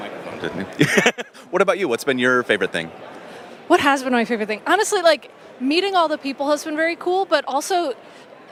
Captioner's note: laughs